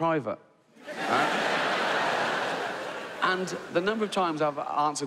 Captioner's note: audience laughs